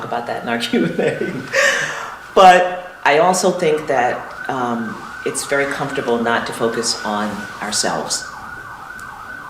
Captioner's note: laughter